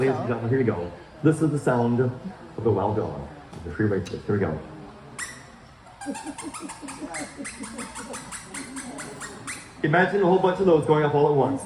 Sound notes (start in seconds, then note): 9.9 tiny squeaks